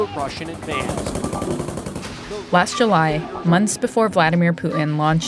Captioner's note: soundbite of gunfire